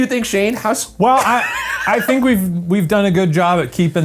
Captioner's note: laughs